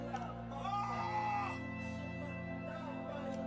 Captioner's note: cries echo